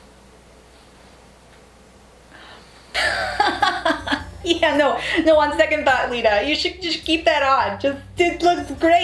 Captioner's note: laughing